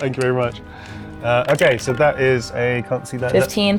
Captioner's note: dice rolling